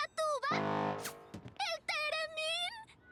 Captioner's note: blast